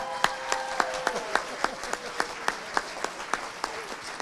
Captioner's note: audience applauding